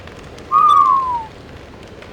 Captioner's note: both Whistling in awe